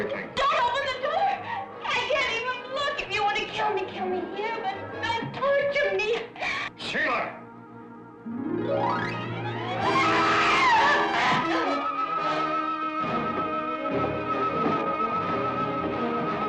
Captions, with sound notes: Everything. - Don't open the door! I can't even look! If you want to kill me, kill here but don't torture. - Sheila! (dramatic music) (Sheila screaming)